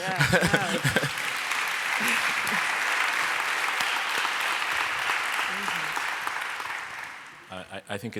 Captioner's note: applause